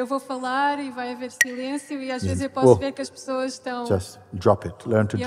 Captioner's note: clacks the sticks